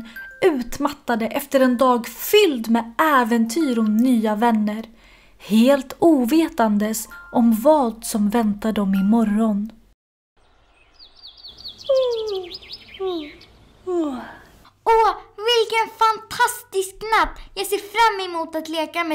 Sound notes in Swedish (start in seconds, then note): 11.9 gäspar